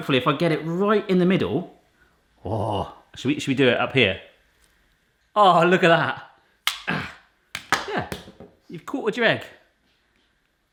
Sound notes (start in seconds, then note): 6.6 slicer snaps